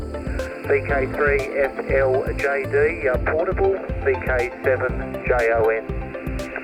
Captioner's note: sound of radio